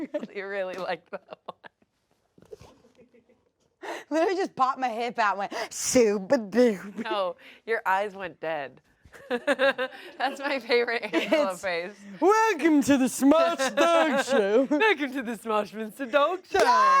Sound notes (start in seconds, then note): 9.1 everyone laughs